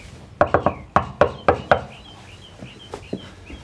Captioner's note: Ulysses knocking